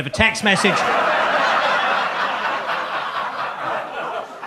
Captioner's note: audience laughs